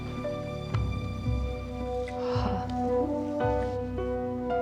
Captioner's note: sighs